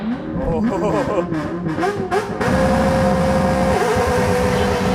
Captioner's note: car engine revving